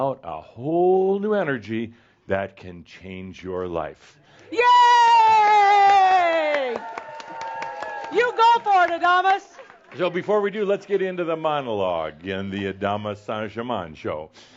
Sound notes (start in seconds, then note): 4.5 more audience cheers; 4.6 shouting